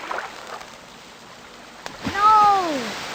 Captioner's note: sound of a turd landing in the water